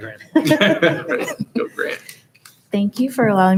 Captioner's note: laughs; chuckling